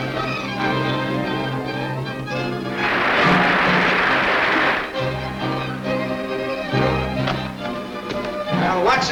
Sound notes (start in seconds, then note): 2.7 water splashing; 2.7 dramatic orchestral music